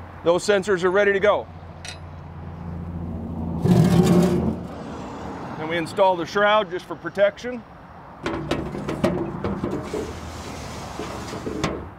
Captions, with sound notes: Those sensors are ready to go. [metal scraping] And we install the shroud, just for protection. [metal sliding]